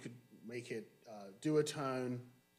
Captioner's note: none